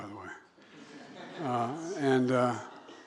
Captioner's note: laughter